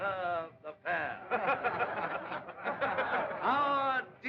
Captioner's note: crowd Laughing